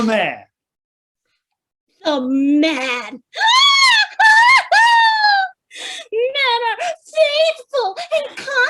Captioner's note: laughs bitterly